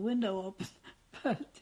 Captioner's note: laughs